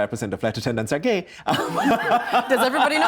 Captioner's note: laughing